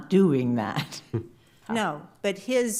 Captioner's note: judge chuckles